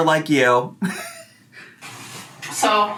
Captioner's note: laughing